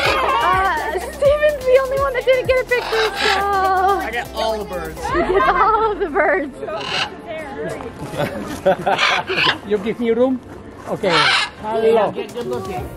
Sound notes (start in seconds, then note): 0.0 group shouting; 3.2 birds squawking; 5.5 birds squawking; 7.5 photographer chuckles